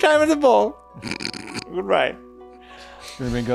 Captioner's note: chuckles